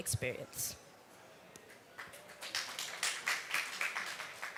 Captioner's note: applause